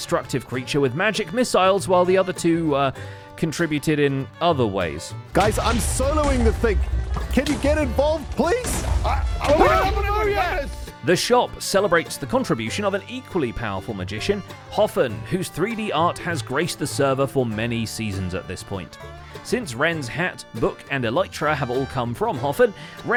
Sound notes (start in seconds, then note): 5.4 wither projectile explosions; 9.4 shouting